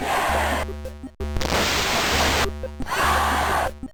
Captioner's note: ksssssssssssssrtttt